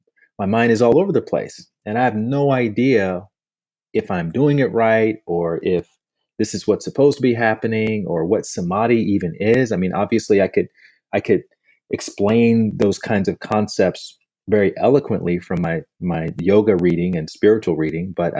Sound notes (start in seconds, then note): none